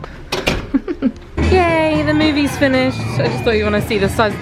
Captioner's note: chuckles